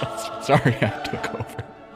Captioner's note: laughs